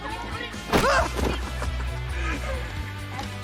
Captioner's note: chuckles